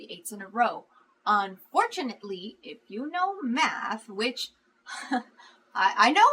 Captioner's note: laughs